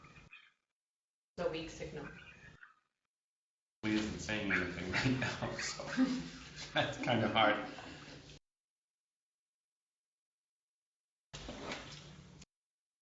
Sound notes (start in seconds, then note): 5.5 laughter